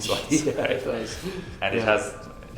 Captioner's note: laughs